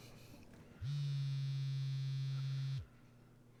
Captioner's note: phone starts to buzz